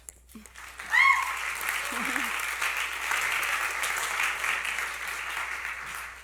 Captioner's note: applause